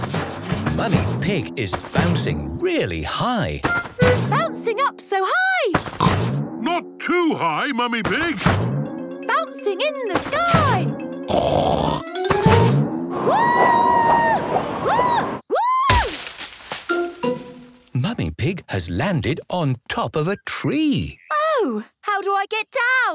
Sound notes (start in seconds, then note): 11.3 snorts